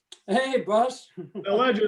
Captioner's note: chuckling